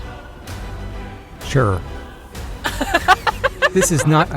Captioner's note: laughs